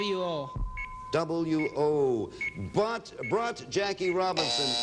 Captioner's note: buzzer sounds